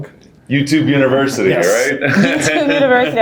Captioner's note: laughing